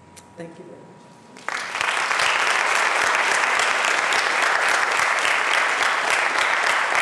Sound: applause

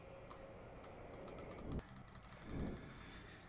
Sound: frantic clicking

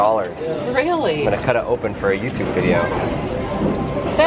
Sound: voiceover

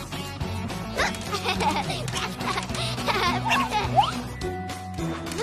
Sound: laughing

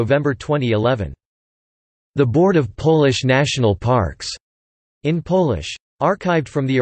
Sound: in Polish

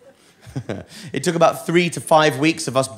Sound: chuckles

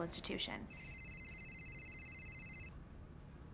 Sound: loud ringing

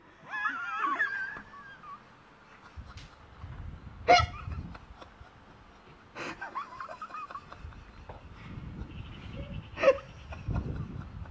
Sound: laughing

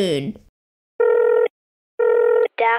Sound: dialling

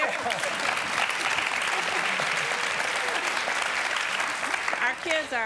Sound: applause

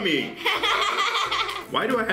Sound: laugh

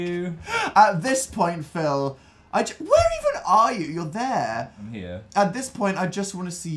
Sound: none

